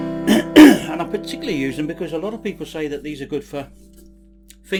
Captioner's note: coughs